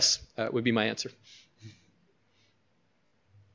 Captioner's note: pause